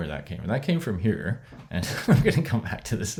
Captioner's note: laughs